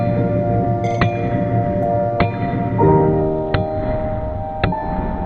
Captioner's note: hammering